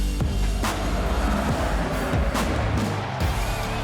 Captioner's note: crowd cheering; rock music continues